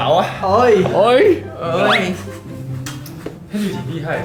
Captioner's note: collective "oi"-ing